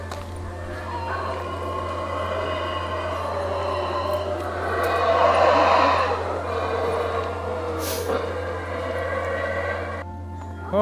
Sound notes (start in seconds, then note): 1.0 howler monkeys howling